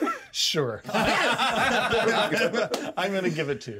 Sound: laughs

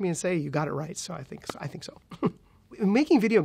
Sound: chuckles

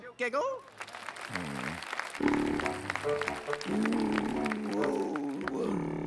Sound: snoring

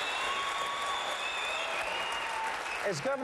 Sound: applause

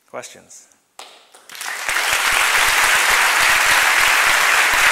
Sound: applause

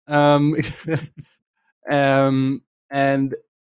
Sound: laughs

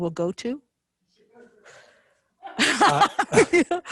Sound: members laughing

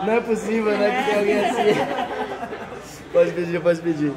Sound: laughter; laughs

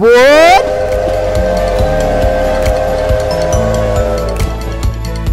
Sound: train whistle

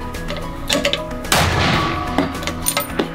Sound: bam!!!

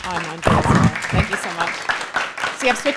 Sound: applause

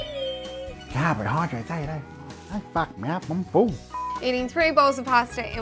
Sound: beep

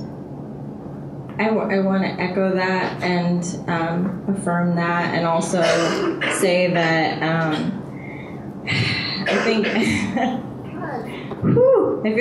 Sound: laughs

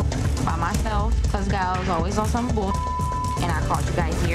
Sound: beep

